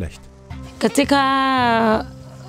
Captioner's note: she speaks her language